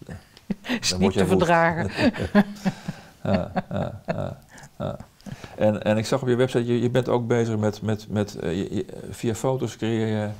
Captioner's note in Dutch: Lacht